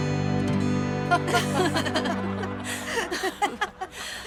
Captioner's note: laughing